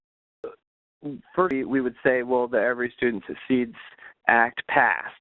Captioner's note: voice distorting